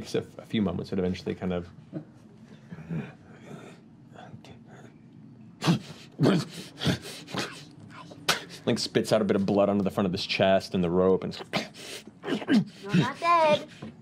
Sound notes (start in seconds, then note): 5.5 grunts; 7.5 whispers; 12.2 grunts